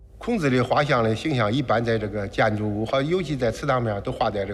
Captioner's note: hablan un idioma extranjero